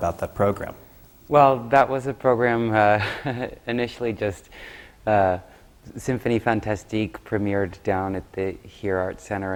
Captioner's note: laughs